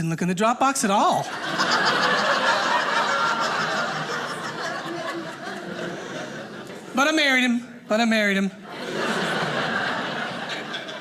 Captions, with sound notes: in the drop-box at all, (audience laughing) but I married him, but I married him. (audience laughing)